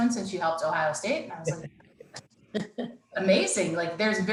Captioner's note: laughing